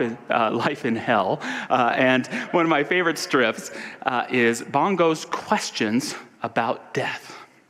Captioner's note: audience laughter